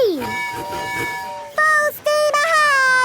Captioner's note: tooting